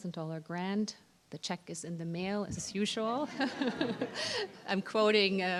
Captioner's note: laugher